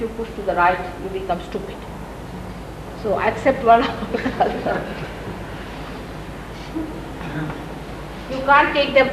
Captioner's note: laughs